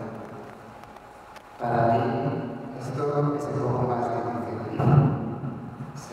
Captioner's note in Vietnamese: Tiếng Tây Ban Nha